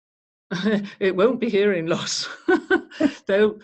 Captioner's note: chuckles